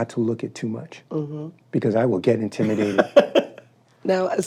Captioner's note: laughs